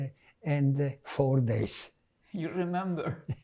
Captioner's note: laughing